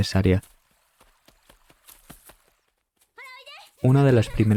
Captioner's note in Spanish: pasos corriendo